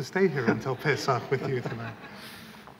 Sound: laughter

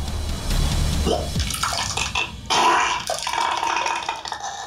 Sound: vomiting

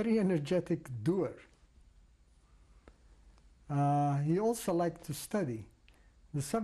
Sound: pauses for 3 seconds

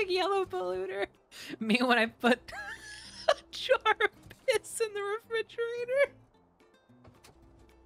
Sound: laughing

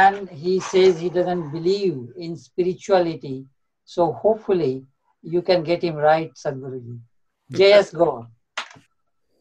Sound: Sadhguru laughs

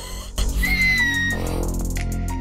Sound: screaming Intensefies; starts To Cries

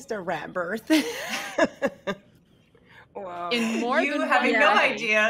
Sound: laughs

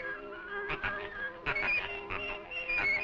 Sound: quacking in rhythm

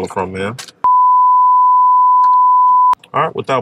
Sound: beeping

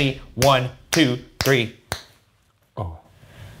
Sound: fingers snapping

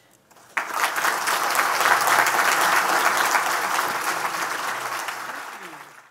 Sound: applause

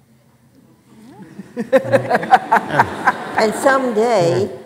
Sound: laughing

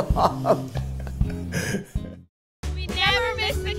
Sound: laughing

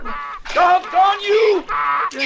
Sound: screaming

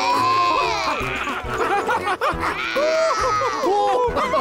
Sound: roars

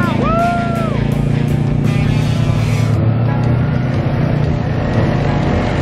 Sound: motorcycle engines roaring

